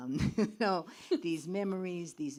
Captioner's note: laughs